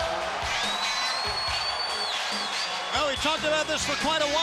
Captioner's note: crowd cheering